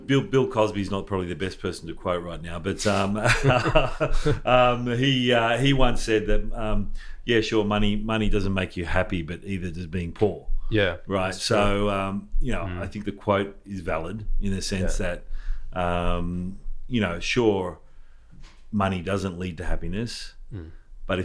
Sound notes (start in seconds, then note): 2.8 people laughing